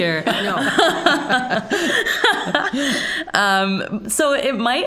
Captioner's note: all laughing